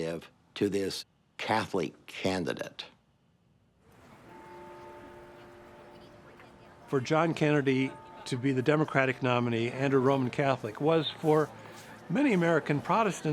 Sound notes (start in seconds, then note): 4.0 church bells